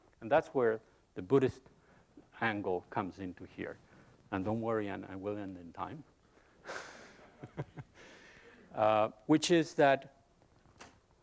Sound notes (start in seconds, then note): 6.7 laughs